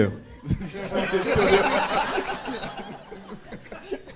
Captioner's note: audience laughing